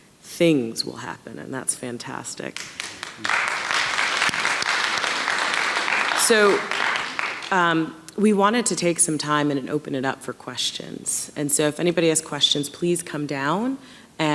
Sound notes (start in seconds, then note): 2.5 audience clapping